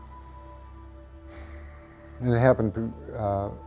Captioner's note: sighs